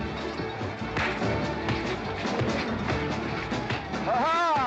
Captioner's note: western fight music; sounds of scuffling & fighting